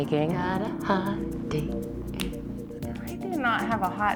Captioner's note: fingers clicking